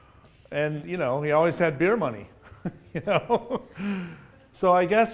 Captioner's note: laughs